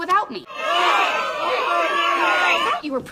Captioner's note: pained screams